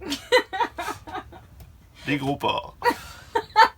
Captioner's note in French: rires